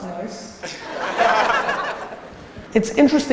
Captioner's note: audience laughing